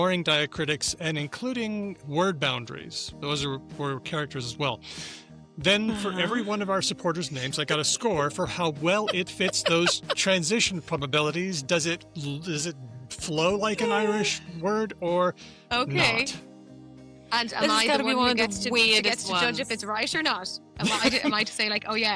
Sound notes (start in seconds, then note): 8.8 laughs